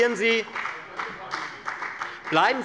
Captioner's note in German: Beifall bei der FDP